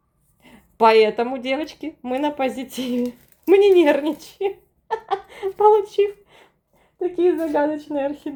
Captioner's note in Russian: смех